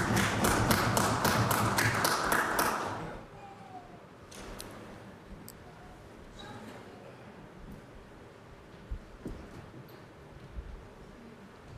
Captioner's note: applause